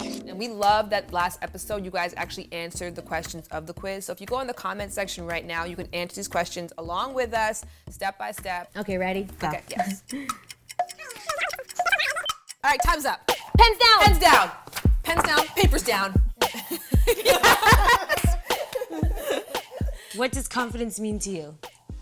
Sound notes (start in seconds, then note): 10.1 clock ticking; 10.1 speaking in fast forward; 16.5 laughter